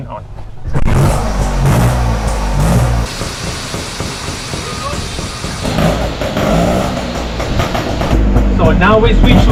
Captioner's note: engine sound